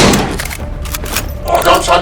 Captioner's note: gun cocks